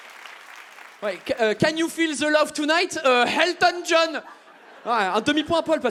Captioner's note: French accent